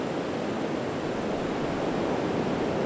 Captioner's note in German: Meerrauschen